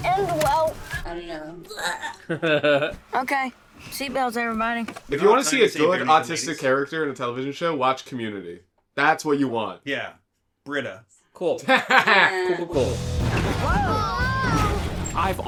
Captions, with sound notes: I don't know. [laughs] If you want to see a good autistic character in a television show, watch Community. That's what you want. Yeah. Britta. [laughs] Cool. Cool, cool, cool.